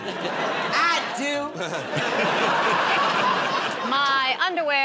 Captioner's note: laughter